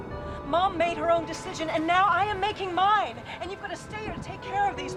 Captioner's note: tires screeching; wind howling